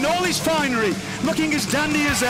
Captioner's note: cheers & boos